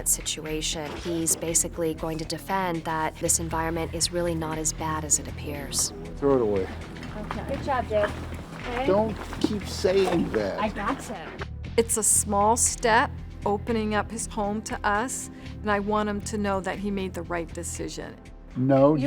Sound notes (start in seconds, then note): none